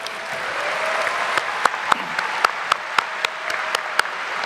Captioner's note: audience applauding